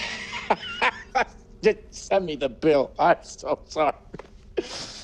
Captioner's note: laughs